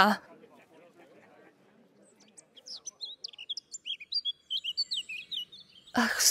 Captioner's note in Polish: wyraźne ćwierkanie ptaka